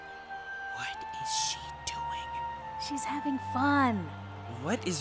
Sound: whispering

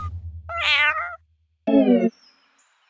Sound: meows

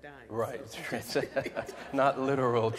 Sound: laughing

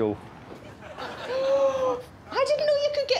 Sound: gasps

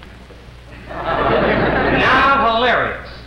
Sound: crowd laughs

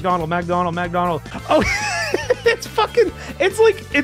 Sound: laughs

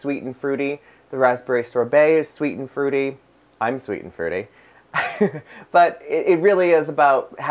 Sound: laughs

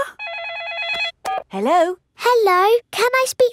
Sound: phone rings

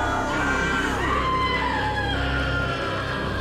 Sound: shouting; fearful screaming

